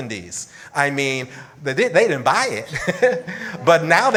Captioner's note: laughs